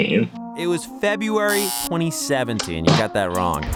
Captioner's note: buzzer buzzing